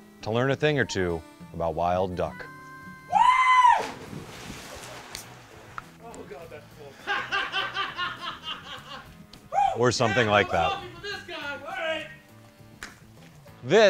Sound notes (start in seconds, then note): 3.2 shouting; 3.6 splashes; 6.8 laughing